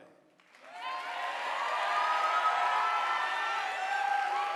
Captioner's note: audience applauding